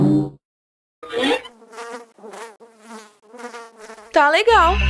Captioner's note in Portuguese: sons de moscas, roupas sujas